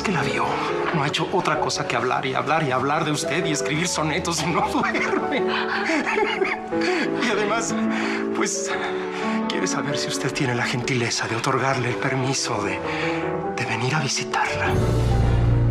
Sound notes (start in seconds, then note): 6.8 ríe